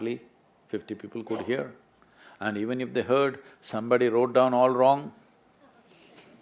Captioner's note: few laugh